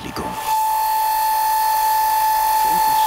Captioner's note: high-pitched buzz